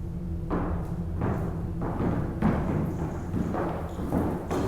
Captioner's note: feet thudding